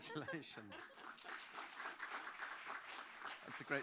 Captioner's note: applause